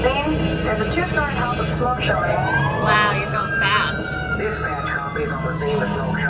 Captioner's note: siren wailing